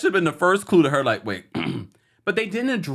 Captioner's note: clears throat